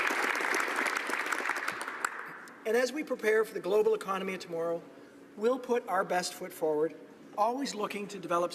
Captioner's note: applause